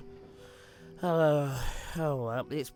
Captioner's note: gilbert sighs